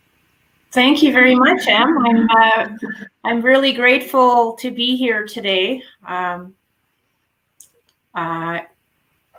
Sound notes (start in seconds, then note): 1.9 faintly speaking